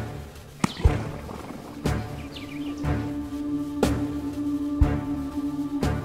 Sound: head slaps; tense music; birds chirping; head slaps

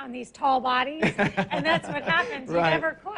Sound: laughs

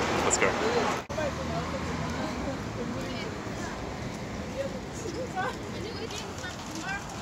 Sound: people chatting

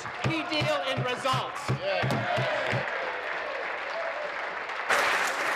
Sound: applause

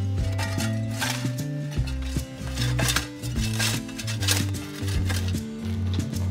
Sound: ambient music continues; shovels scraping

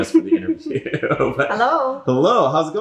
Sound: laughing

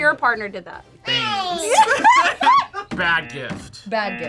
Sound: both laugh

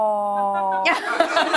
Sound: laughter

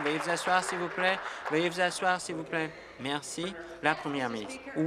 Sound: applause

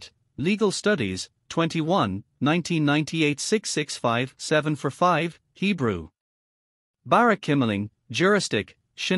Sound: Hebrew

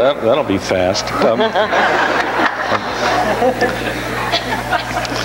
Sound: audience laughs

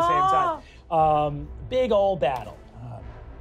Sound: sighs

